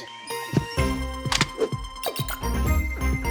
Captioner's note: beeping